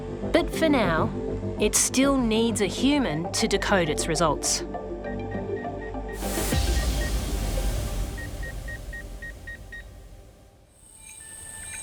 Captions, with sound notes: But for now, it still needs a human to decode its results. (BEEPING)